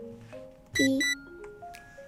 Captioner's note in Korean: 삐릭